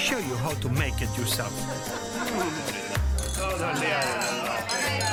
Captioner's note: all speaking Spanish; singing in Spanish